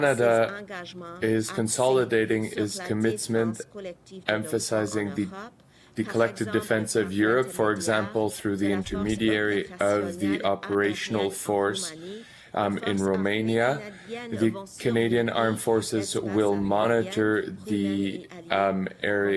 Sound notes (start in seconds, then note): 4.6 speaking French; 5.5 voice of interpreter